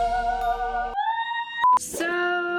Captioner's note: angelic music; beeping